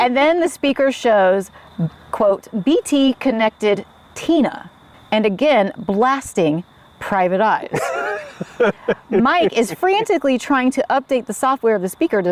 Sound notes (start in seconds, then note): 7.7 laughs